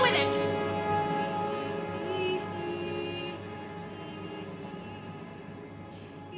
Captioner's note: Sikozu humming